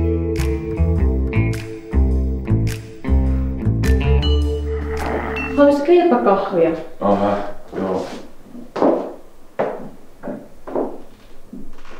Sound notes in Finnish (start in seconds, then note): 4.7 kaasua purkautuu